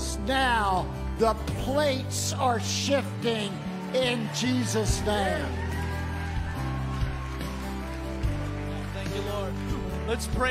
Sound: crowd cheers

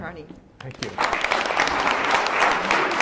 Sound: applause

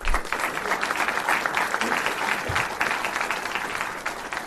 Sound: applause

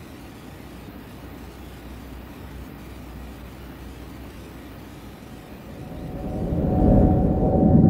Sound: static

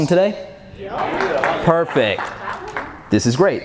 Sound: audience applauds

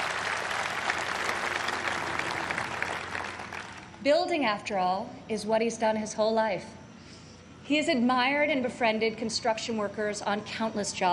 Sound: applause

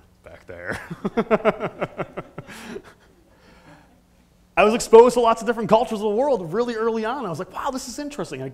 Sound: laugh

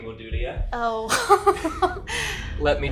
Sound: chuckling

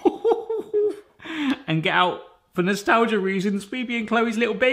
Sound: laughing

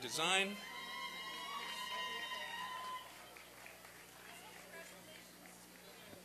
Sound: applause and cheering

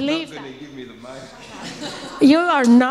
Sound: audience laughs

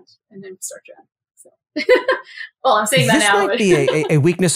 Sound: laugh

